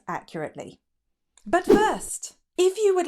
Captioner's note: air whooshing